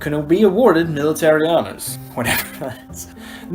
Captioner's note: laughing